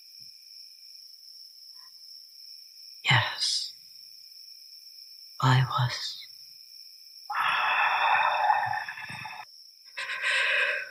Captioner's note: growling